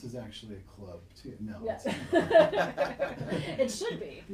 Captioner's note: all laughing